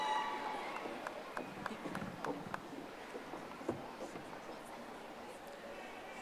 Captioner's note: audience applauding